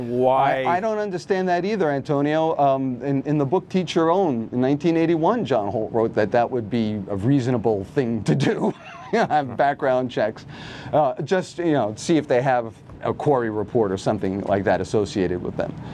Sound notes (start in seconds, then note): 8.6 laughs